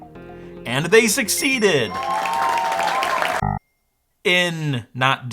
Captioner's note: audience applauds